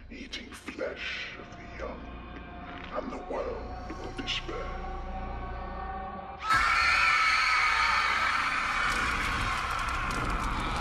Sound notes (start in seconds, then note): 6.4 screaming